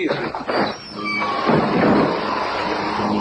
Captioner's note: wind blows